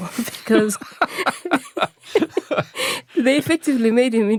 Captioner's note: both laughs